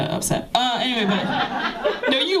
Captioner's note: laughter